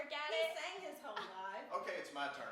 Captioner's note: laughs